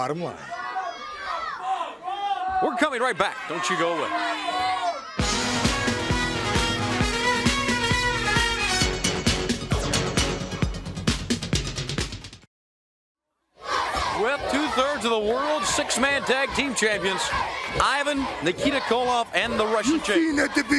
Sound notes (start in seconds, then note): 9.0 crowd cheering